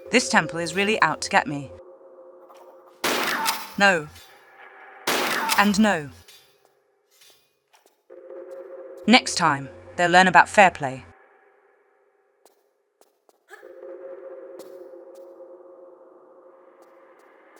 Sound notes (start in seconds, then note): 3.0 bam; 5.0 bam